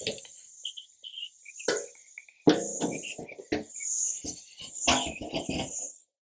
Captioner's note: whistling